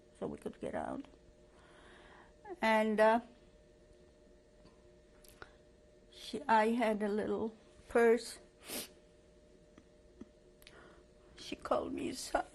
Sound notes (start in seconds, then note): 3.0 pauses for 3 seconds